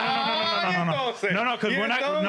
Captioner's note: speaking In Foreign Language